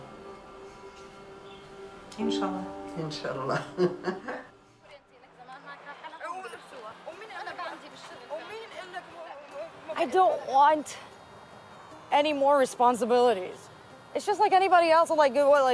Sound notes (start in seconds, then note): 5.8 speaking in Arabic